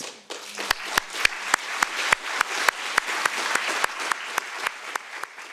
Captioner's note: audience applauding